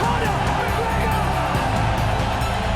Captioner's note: crowd cheering